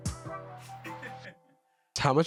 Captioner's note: laughs